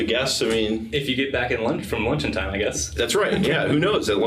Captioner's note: laughing